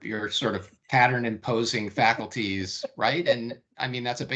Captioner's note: laughing